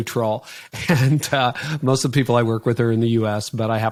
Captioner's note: laughing